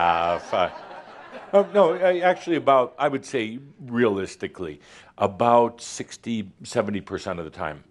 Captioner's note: laughter